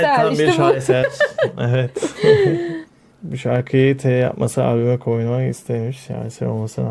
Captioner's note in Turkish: kahkaha